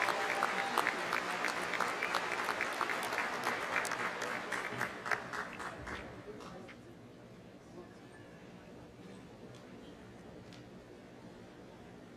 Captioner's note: applause